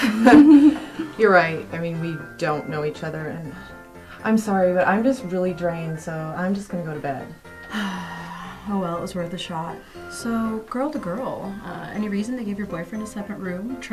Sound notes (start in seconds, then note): 0.0 Angelica chuckles; 7.6 Holly sighs